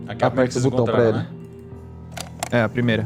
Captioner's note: tape player